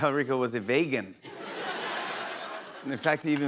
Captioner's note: laughter